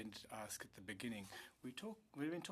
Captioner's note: speaking French